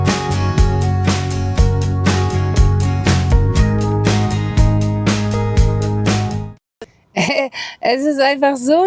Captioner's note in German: räuspern